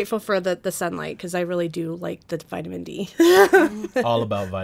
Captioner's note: laughing